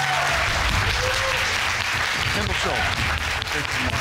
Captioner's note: audience clapping